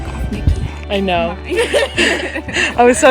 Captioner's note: both laughing